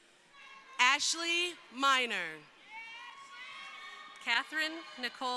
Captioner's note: crowd cheering